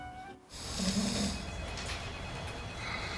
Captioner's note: snoring